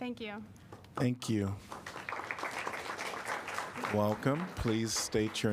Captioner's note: applause